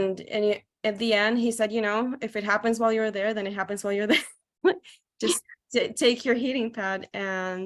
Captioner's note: laughs